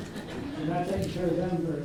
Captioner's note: audience laughs